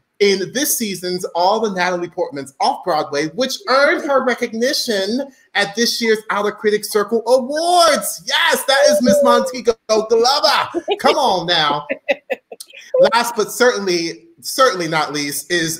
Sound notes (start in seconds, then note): 11.9 giggles